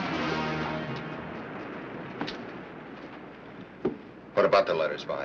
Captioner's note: dramatic music; waves crashing nearby